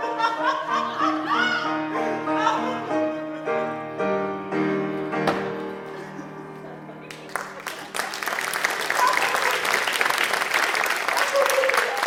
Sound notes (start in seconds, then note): 9.5 applause